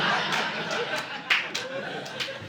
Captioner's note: audience laughing